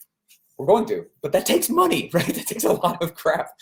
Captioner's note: laughs